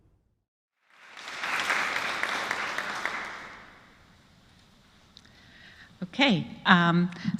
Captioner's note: applause